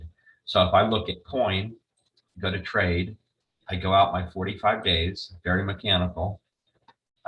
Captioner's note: very mechanical